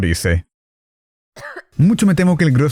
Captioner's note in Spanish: cof